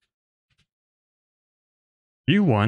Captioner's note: none